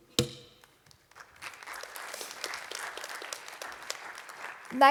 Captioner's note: applause